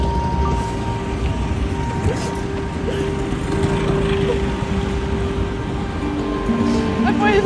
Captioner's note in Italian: Pianto